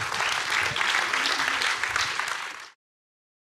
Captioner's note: audience applauding